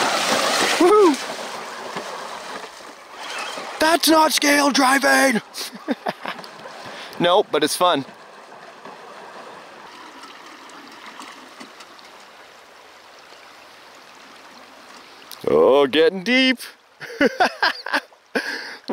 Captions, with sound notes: Woo hoo! (mock yelling) That's not scale driving! (laughing) Nope, but it's fun. Oh, gettin' deep. (laughing)